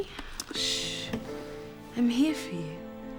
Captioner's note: shushes